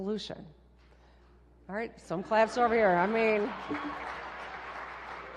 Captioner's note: applause